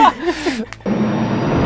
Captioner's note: laughing